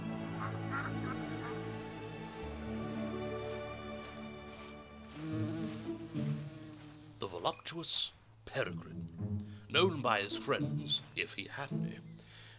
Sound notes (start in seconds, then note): 3.4 footsteps approaching; 5.0 bee buzzing